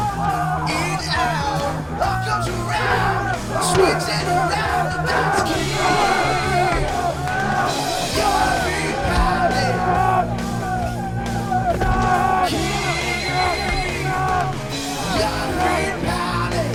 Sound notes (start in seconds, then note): 3.3 thud; 11.8 thud. SMACK!